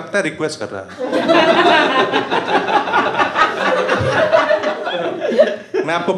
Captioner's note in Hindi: हँसना